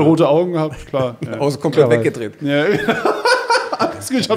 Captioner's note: lacht schallend